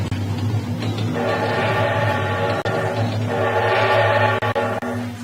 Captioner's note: train whistle blowing